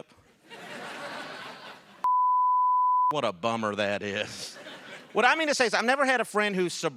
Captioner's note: laughter